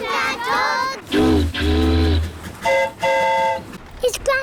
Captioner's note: boat horn honks; train horn toots